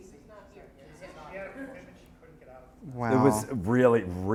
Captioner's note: voiceover